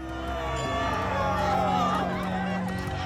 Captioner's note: they cheer